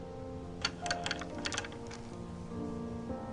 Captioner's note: click